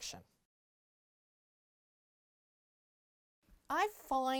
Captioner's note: no Sound Present